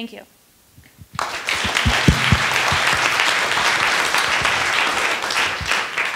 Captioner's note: attendees applauding